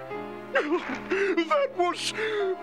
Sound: sobbing

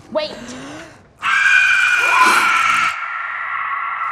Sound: whistle screeching

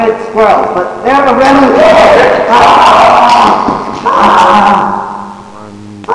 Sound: screaming

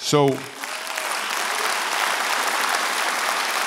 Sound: applause

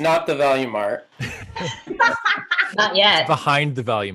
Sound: laughing

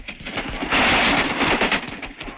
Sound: train rumbling

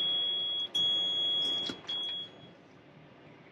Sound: RV beeping

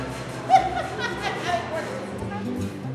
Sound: laughing

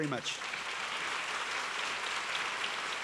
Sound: applause

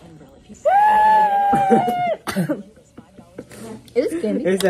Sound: cough

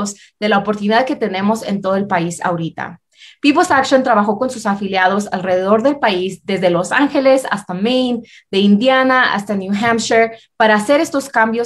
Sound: speaking spanish

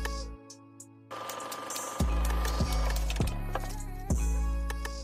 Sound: machine whirring

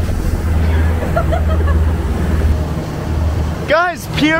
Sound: laughing

